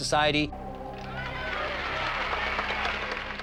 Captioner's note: women cheering